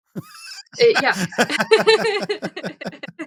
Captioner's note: chuckles